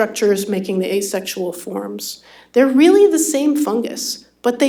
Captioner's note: none